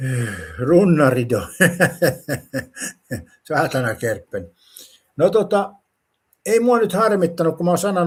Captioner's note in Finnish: naurua